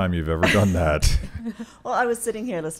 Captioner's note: laughing